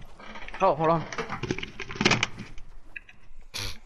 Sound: headset Noises

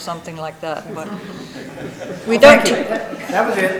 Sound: people laughing

